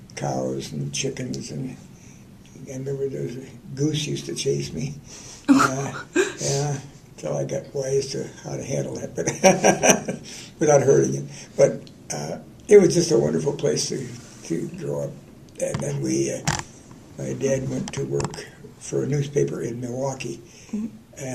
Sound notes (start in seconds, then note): 5.5 laughter; 9.2 laughter